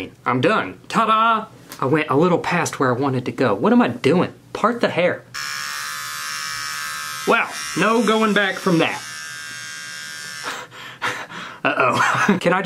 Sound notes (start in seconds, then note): 5.3 razor buzzing; 10.4 man laughing